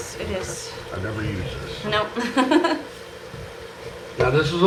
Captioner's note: chuckling